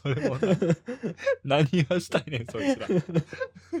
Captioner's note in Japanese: 笑い